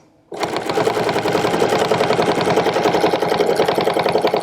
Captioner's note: machine whirring